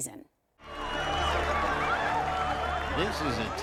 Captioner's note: audience cheering